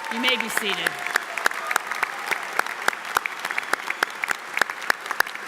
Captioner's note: audience applauds